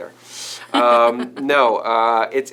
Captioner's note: laughing